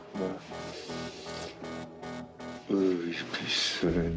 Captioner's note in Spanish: Habla entre dientes